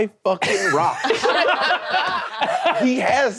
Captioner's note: all laughing